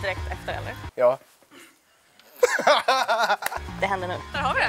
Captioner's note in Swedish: Skratt